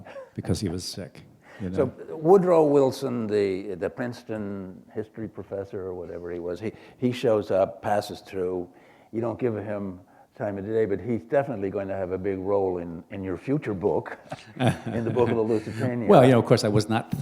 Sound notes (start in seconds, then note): 14.2 laughter